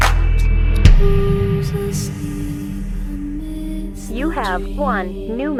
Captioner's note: bag slam and music plays